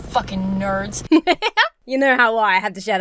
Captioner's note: laughs